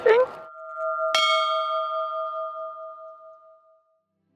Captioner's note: bell rings